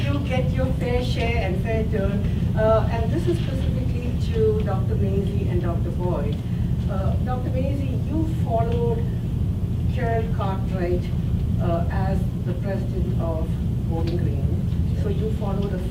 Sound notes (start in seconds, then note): none